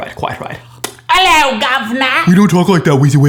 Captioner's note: very Loud and Annoying Imitation of a British Accent; complaining Audience Voice